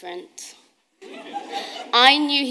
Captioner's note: audience laughing